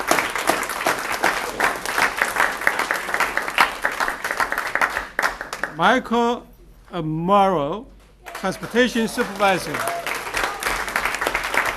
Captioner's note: applause